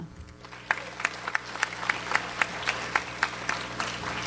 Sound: audience applauds

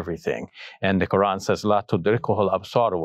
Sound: speaks Arabic

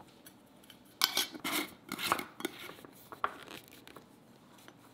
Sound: lid closing

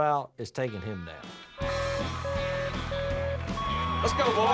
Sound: lights beeping

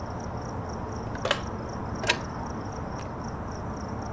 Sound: night ambience fades in and plays; receiver pickup sound

